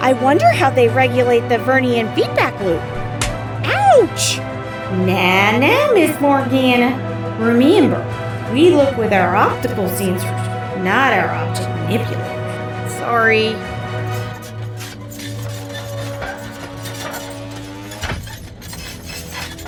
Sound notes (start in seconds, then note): 3.1 hand slap; 14.1 cargo ramp closes, air taxi lifts off, flight hum